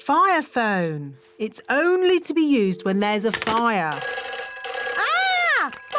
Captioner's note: phone rings